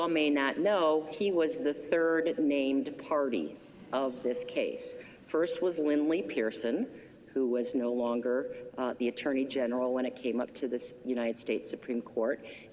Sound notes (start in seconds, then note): none